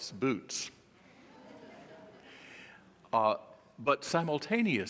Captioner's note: audience laughing